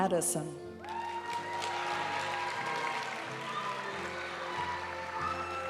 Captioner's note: audience cheering and applauding; graduation music